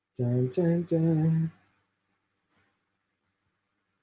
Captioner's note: chanting